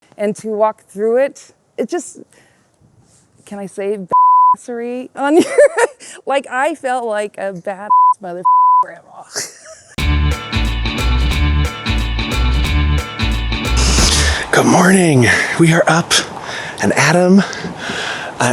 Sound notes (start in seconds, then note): 4.1 beep; 5.3 woman laughing; 8.4 beep; 10.0 upbeat music